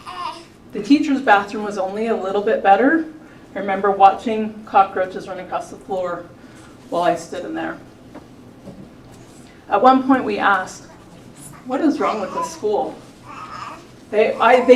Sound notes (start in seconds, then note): none